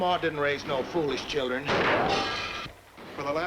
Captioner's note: gunshot, bullet ricochets